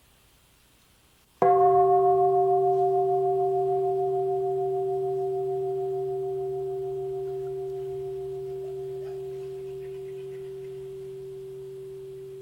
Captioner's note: bell